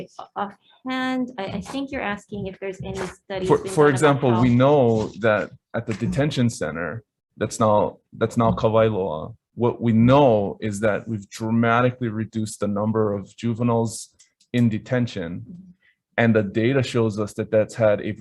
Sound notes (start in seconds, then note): 8.2 speaks in foreign language